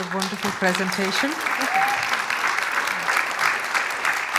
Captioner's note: applause